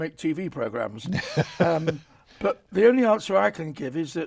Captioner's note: chuckles